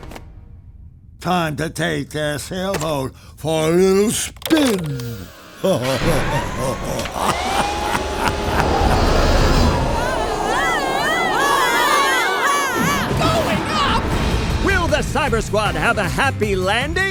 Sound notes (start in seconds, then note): 5.3 evil laughter; 8.9 wing howling